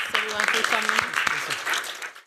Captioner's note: applause